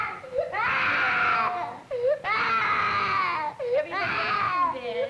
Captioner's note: screaming